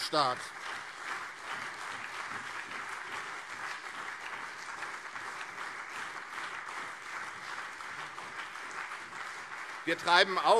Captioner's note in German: Lebhafter Beifall CDU und SPD